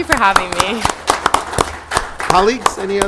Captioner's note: council members applauding